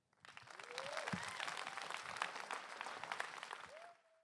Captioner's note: applause